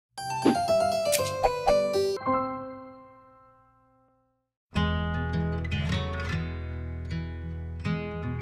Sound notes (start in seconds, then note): 0.2 lively music; 1.1 button clicks; 4.7 gentle guitar music